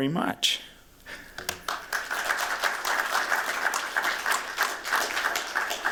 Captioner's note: applause